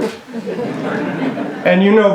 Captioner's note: laughter